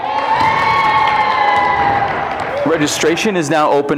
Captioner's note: crowd cheering